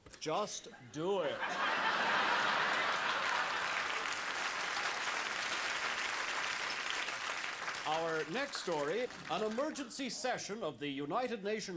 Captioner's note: laughter